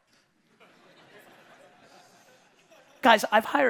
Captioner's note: audience laughing